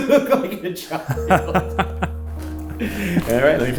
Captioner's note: both laughing